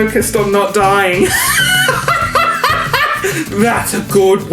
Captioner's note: laughs